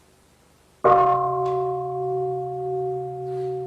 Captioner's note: bell